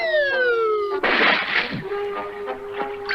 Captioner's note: splash!